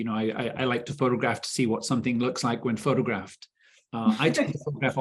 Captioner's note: chuckling